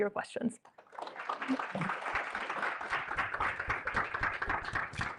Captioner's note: applause